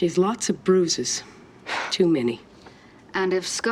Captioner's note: scoffs